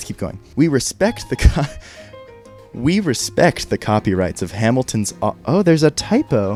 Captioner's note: laughs